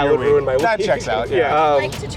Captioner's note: laughing